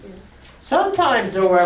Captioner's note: voiceover